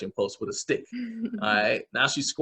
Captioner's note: chuckle